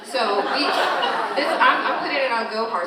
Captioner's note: all laughing